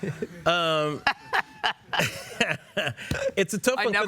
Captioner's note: both laugh